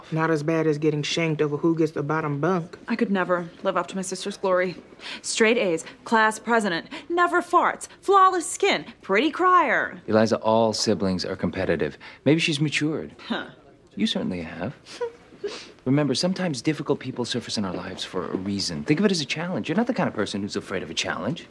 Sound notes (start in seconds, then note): 14.9 giggles